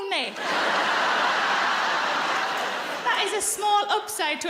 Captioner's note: audience laughs